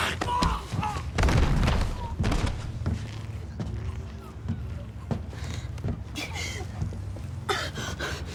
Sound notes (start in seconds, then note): 0.2 grunts; 7.5 gasping